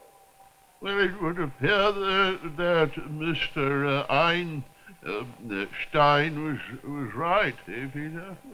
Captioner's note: voice trembling